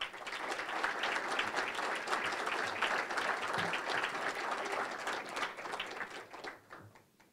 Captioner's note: applause